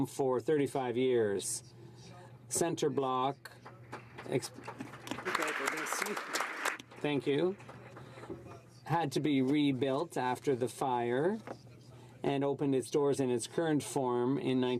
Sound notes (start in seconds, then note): 7.7 some Applause